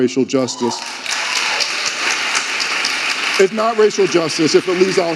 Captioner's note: audience applauding and cheering